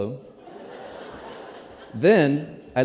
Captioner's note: laughter